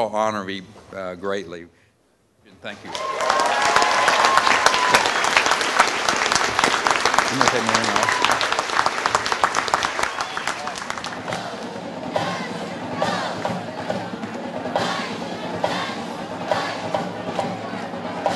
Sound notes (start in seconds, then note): 2.8 cheering